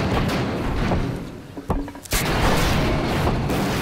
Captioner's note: gunshot